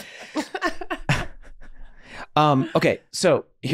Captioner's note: laughing